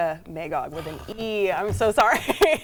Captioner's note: sighs